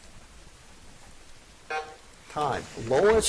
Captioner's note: buzzer buzzes